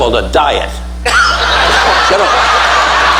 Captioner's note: audience laughing